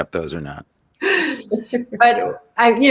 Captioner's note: laughs